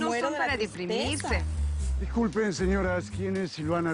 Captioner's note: Hablan al unísono